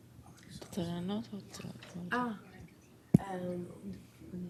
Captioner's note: non-english speech